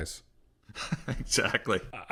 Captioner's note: laughs